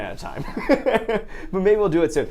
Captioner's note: laughs